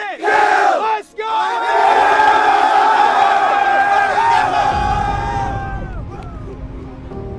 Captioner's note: yelling; cadets cheering; gentle music